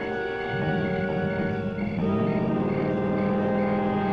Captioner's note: door shuts; car engine roaring